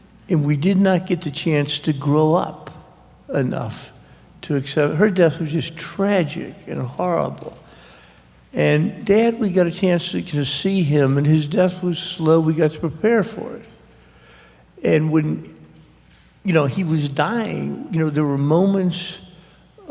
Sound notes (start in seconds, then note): none